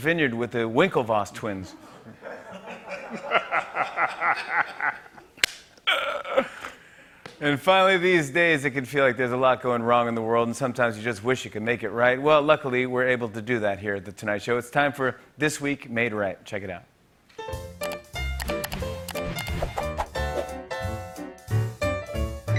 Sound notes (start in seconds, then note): 1.4 laughter; 5.1 laughs, snorts; 5.4 clap